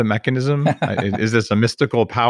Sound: laughs

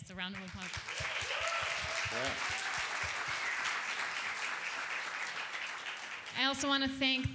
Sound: applause

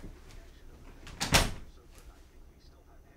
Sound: door closes

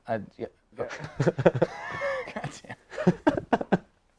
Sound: laughter

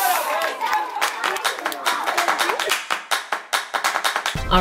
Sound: audience cheers

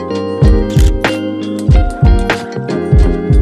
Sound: camera shutter clicks

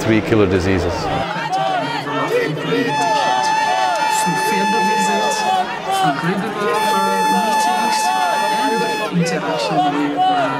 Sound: chanting

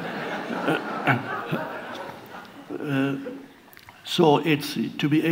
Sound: audience laughs

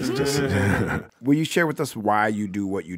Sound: group laughs

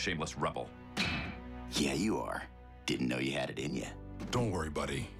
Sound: metal clksan

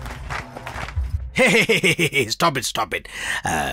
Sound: laughs

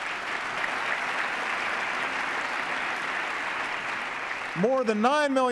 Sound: applause

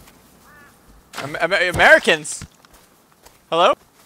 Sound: none

